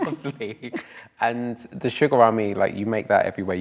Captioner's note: laughs